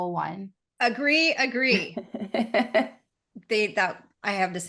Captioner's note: laughing